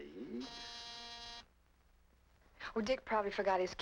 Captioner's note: doorbell buzzes